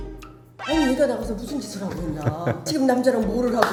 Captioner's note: worried